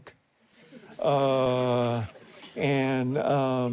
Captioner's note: audience chuckles